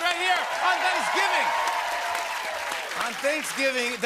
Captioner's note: cheers and applause